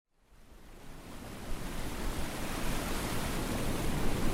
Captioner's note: waves crashing